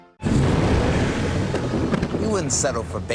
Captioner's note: Batmobile revving